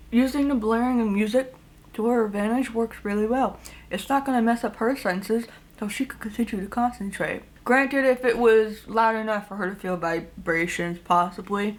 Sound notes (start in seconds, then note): none